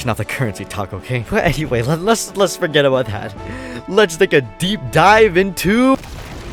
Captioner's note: inhales